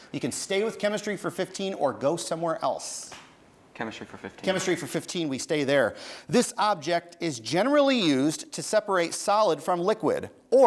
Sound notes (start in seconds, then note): none